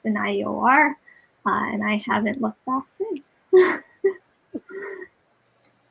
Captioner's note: laughs